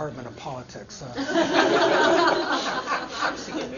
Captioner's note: laughter